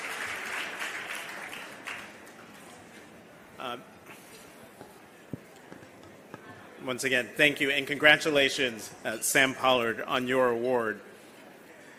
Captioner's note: applause